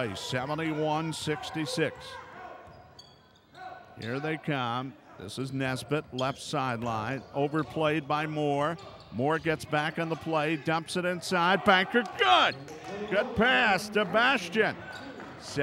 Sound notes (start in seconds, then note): 1.9 shoes squeaking; 2.4 yelling